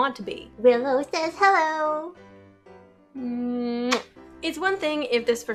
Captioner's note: kiss sound